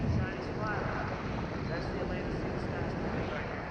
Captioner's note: wind howling